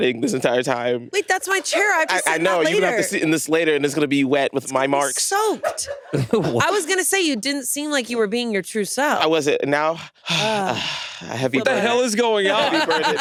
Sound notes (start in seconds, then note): 10.2 sighs